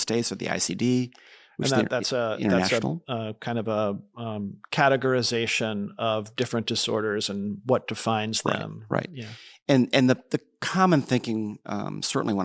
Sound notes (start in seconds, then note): 1.7 faintly speaking